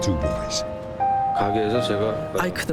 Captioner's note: speaking korean